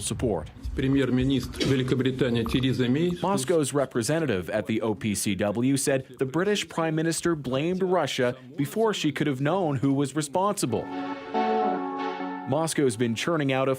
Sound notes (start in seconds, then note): 6.4 speaking foreign language